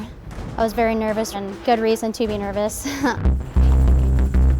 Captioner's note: laughs